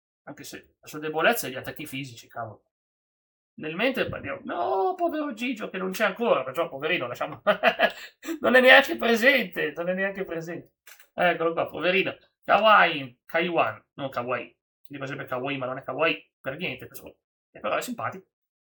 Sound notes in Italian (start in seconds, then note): 7.4 risate